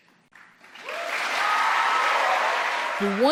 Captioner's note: applause